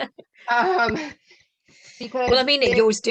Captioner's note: laughter